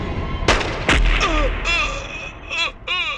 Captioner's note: gun Firing